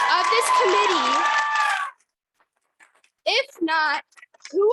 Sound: audience cheering

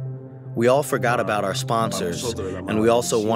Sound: through translator

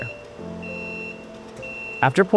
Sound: machine beeping

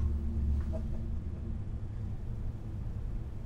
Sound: laughing

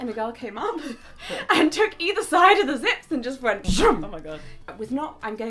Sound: imitates zips being pulled down

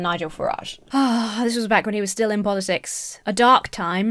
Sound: sighs

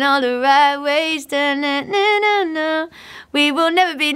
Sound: humming

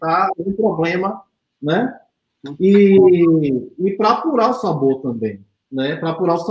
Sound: speaks portuguese

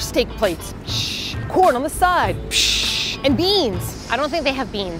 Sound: in American accent

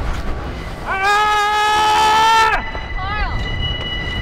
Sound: karl yells outloud

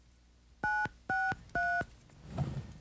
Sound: phone dialing

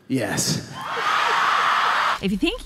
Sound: audience cheering

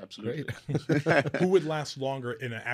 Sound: both chuckling

